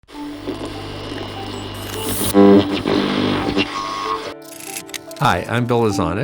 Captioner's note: static crackling; curious music